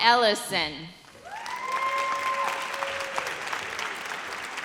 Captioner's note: audience cheers